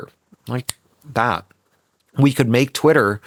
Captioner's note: Cory snaps his fingers